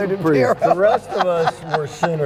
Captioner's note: laughing